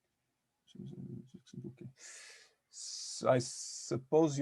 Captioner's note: faintly speaking